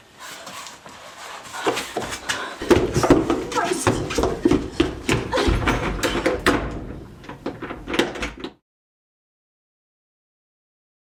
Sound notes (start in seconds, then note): 6.4 door bangs; 7.5 lock clicking